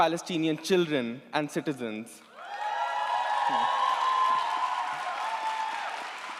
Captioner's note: audience applauds & cheers